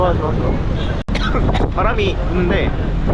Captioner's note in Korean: 콜록